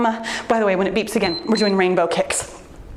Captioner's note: timer beeps